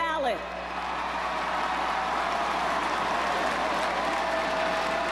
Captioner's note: crowd cheers